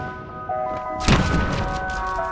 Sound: canon blast

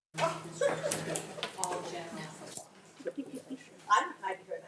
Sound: people chattering

